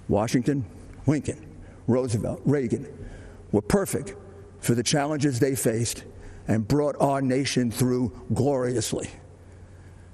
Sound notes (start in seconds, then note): none